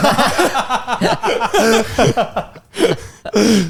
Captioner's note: all laughing